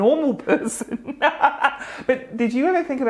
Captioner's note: laughs